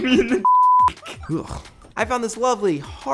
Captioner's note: disgusted noise